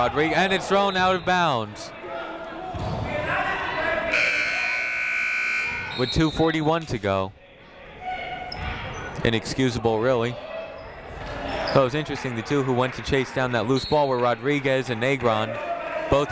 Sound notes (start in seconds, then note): 2.2 people shouting in the crowd; 4.1 buzzer ringing